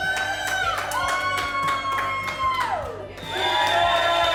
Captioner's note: cheers; family cheering